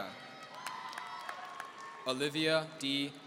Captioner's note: applause